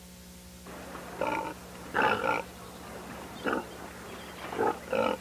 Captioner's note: pigs snort